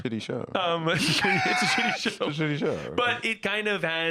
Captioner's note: laughing